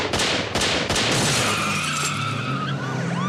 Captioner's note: gunfire; tires screeching; siren blaring